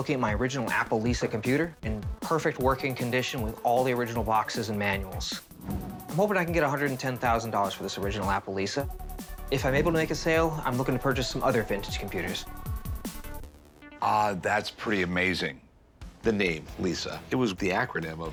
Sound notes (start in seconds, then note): none